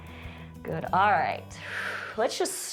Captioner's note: exhales